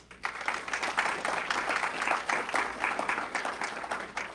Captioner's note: audience clapping